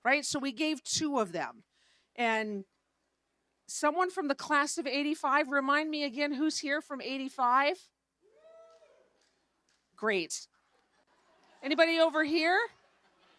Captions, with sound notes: Right, so we gave two of them, and someone from the Class of '85— remind me again who's here from '85— (crowd cheering) Great. (audience laughing) Anybody over here?